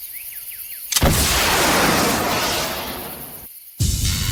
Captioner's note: rocket blasts; explosion booms